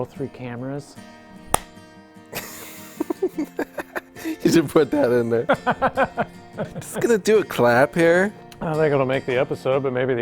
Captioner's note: laughs